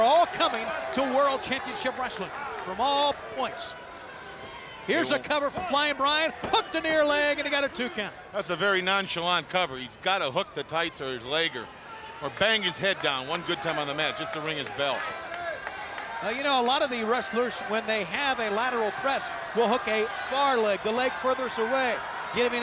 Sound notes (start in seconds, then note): 6.4 hands thudding